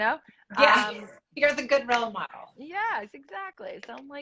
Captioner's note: laughs